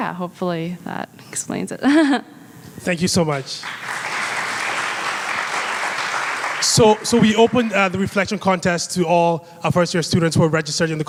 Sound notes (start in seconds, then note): 1.9 laughs; 3.3 audience applauds